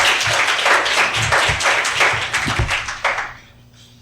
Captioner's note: audience applauding; audience cheering